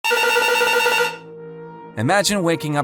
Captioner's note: phone rings